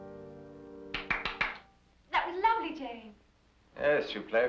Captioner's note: clapping